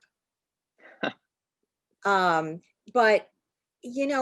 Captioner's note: chuckles